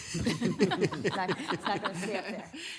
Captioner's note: laughing